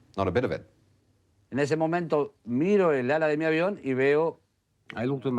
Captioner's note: man speaking in foreign language